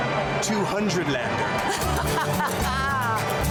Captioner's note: laughter